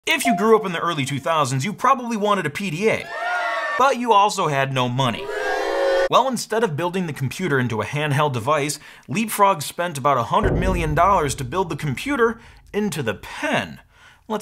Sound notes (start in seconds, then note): 3.0 crowd boos; 3.0 crowd cheers